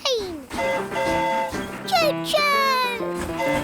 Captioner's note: train horn hooting